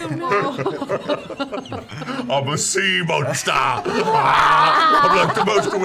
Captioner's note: gasps; laughs; roars